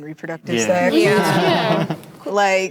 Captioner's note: teens agreeing